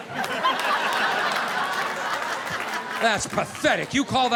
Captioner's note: audience laughing